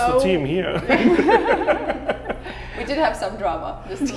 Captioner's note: all laughs